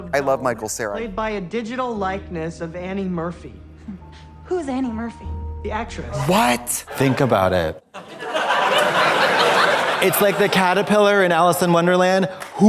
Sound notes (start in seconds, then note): 7.9 audience laughs